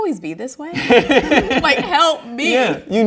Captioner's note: laughs